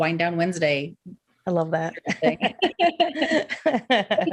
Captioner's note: laughs